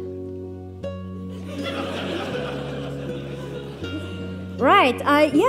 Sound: audience laughs

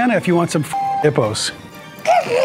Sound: Whiskers grunts

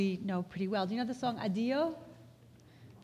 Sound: foreign language

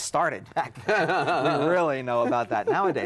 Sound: laughing

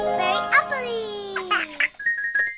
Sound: giggle

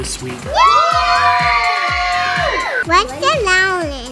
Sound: children cheering

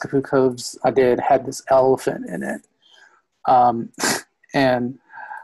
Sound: laughs

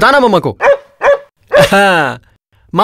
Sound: dog barks

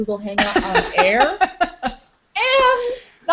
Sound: is laughing

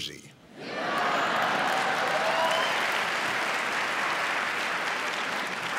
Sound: audience laughing; audience applauding

